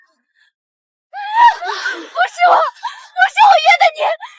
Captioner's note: gasp